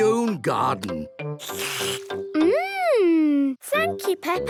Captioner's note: slurps